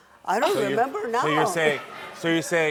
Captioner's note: audience reacting